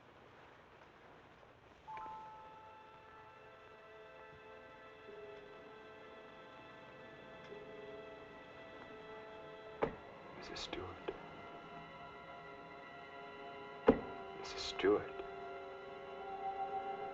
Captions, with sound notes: (mysterious music) (fist thumping) Mrs. Stewart? (fist thumping) Mrs. Stewart.